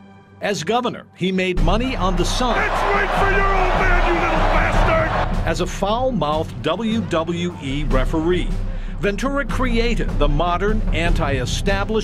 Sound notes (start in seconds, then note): 1.7 crowd cheering